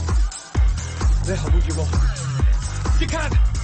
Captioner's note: speaking in foreign language; dramatic music continues